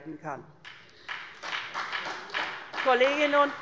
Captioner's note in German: Beifall bei der SPD